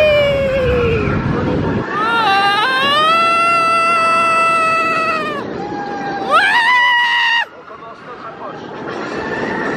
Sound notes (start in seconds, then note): 2.5 wailing